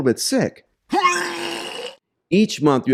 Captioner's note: retching